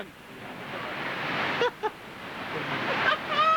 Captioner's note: laughing